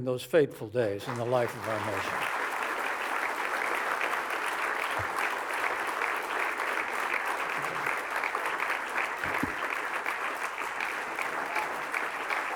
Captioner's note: applause